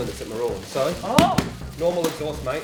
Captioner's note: bangs box